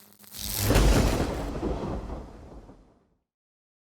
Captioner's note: thunder roaring